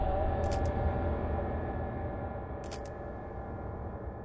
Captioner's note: camera shutter clicks